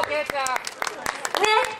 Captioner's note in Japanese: 拍手